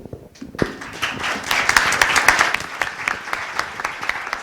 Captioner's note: applause